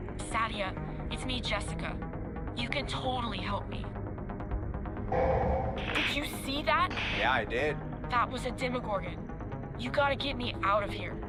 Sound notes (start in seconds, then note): 5.2 demogorgon moans